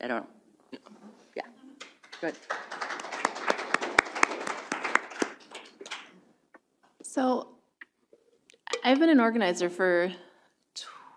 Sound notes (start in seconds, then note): 1.8 applause